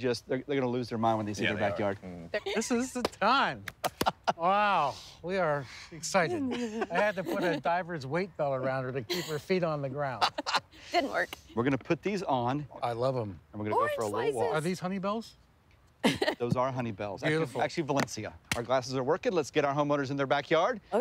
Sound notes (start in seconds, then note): 3.6 chuckles; 10.0 laughing